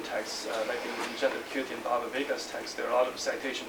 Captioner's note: non-english speech